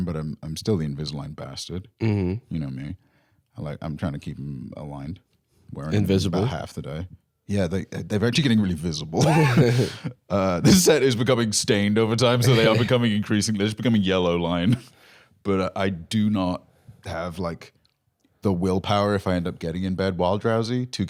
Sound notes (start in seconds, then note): 9.2 laughs